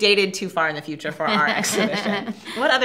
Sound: both laugh

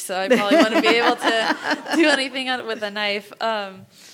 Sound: laugh

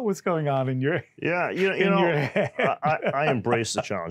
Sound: laughs

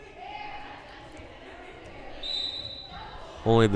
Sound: whistle blowing

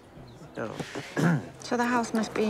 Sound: clears throat

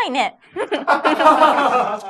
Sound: laughs

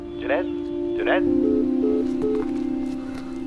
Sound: call disconnect

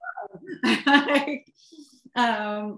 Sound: laughter

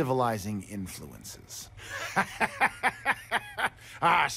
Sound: laughs

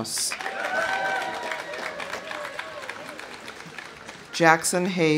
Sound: audience applauding; audience cheering

